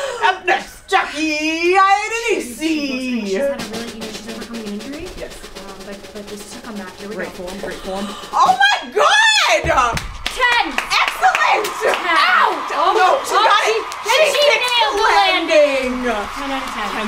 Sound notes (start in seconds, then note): 2.8 women mumbling